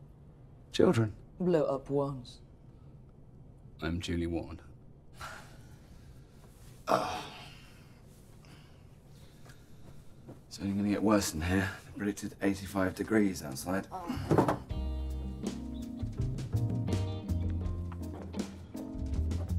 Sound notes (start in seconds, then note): 6.9 grunting; 14.6 slow jazzy music